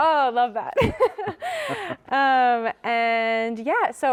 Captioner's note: giggling